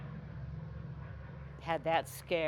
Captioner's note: plane engines rumbling